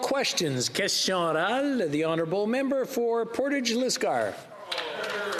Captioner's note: applause